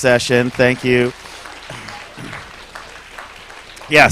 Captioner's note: applause